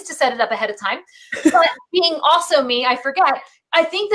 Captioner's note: laughs